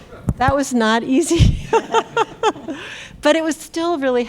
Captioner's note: chuckles